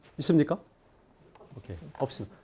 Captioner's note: speaking in Korean